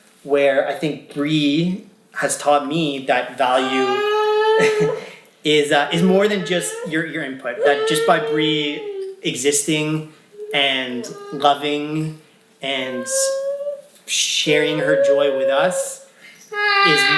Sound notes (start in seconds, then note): 3.7 vocalizing; 5.6 laughing